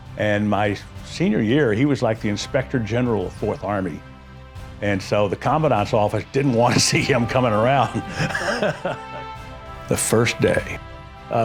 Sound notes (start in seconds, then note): 7.7 laughs